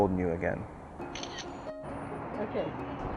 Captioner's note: camera shutter clicks